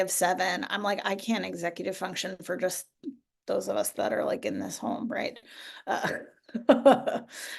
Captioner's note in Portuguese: risos